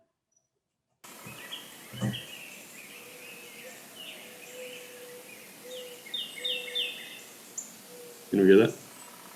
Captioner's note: recording of bird calls